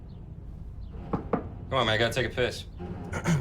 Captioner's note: knocking